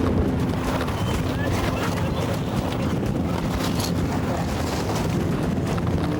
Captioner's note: intense music; boat droning; water splashes